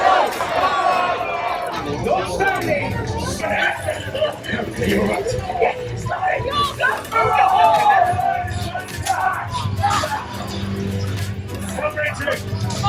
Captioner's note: sounds of fighting knights